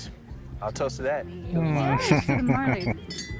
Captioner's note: chuckling